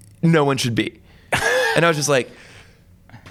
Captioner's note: laughs